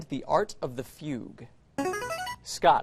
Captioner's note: buzzer